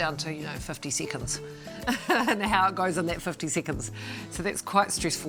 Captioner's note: laughs